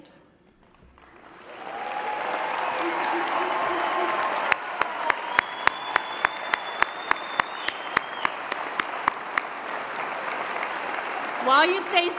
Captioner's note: applause and Cheers